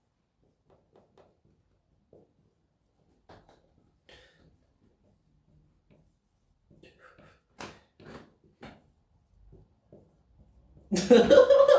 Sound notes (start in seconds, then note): 2.0 breathes in; 6.7 breathes out